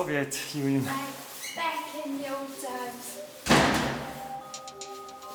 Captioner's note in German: Tür schlägt zu